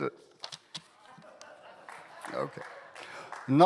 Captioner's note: laughing